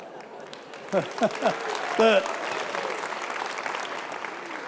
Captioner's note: audience applauding